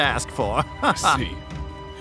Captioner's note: chuckles